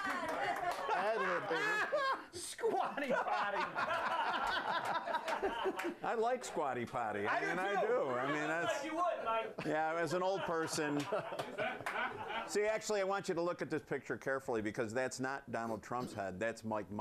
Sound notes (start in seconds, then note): 2.7 laughter